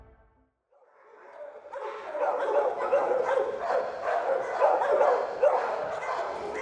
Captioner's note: dog barking